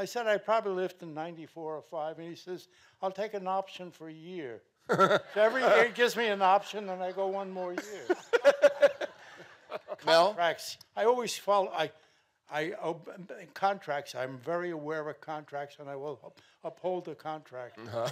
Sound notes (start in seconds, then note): 4.9 laughing; 7.7 laughs; 12.4 stammering